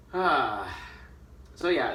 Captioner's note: sighs